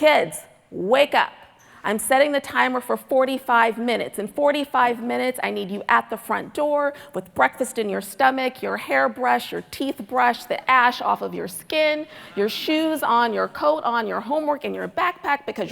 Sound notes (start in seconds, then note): none